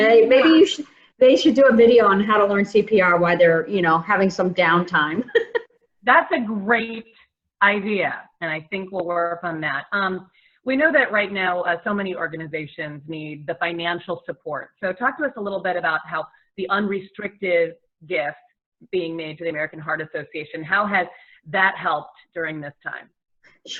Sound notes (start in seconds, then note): 5.2 laughs